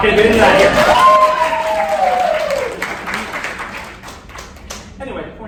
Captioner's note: applause